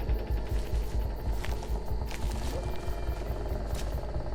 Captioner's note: leaves crunching